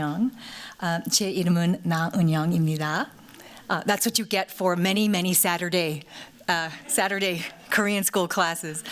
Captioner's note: korean